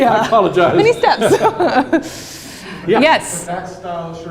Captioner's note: chuckles